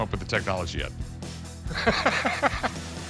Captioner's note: laughs